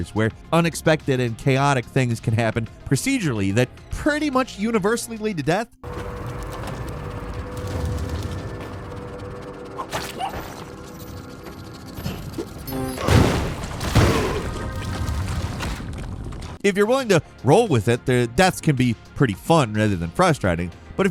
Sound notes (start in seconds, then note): 5.9 machinery rumbling; 7.7 flames roaring; 9.9 bug squelching; 13.0 explosions booming